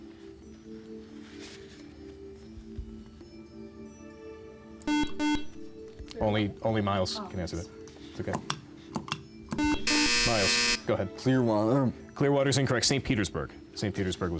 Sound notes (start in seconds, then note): 3.1 beep; 7.6 time-out buzzer